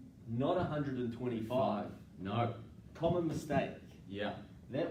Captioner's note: none